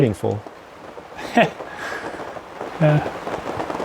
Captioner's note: laughs